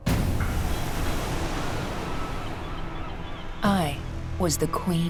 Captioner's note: waves crashing; birds cawing